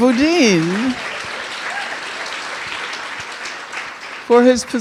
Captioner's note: audience applauding